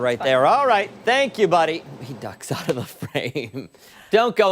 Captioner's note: laughter